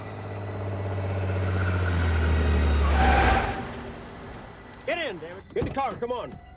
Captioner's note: car revving; tires screeching